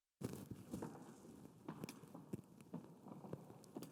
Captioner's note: footsteps tapping